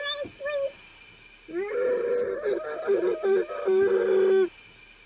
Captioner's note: angry noises